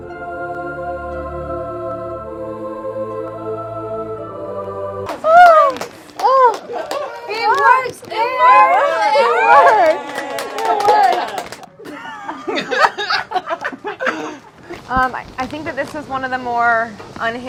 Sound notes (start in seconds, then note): 5.0 clapping; 12.7 laughing